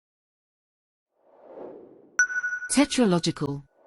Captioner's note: logo whooshes in